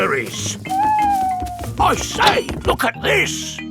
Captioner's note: owl hooting